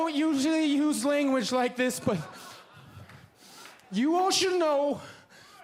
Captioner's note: laughing